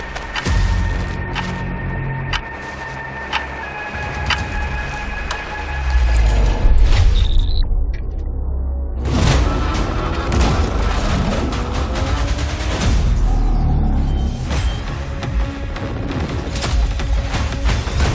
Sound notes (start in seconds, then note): 6.4 static; 10.3 intense music playing